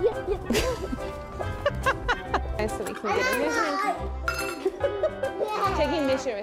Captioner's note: laughing